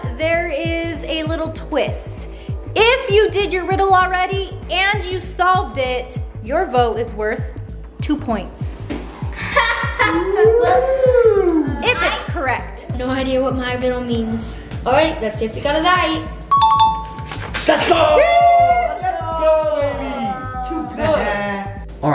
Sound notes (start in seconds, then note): 9.4 mocking laughter